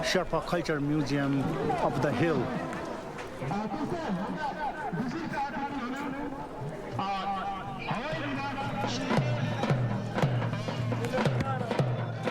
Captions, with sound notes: Sherpa Culture Museum up the hill. (speaking in Sherpa language) (upbeat drumming)